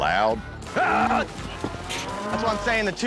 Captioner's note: yelling